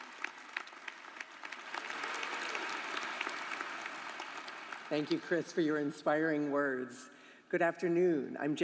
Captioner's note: applause